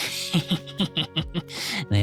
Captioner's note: laughs